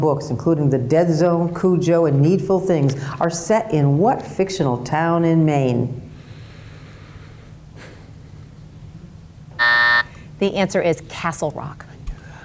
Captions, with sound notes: including The Dead Zone, Cujo, and Needful Things, are set in what fictional town in Maine? (timer buzzes) - The answer is Castle Rock.